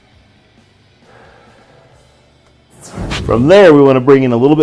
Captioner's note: exhales